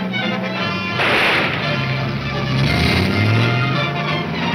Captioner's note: gunshot banging